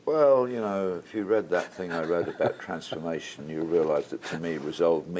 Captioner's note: laugh